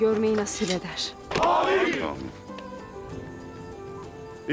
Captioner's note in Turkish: Hep bir ağızdan